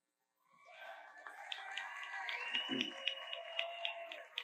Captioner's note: audience applauds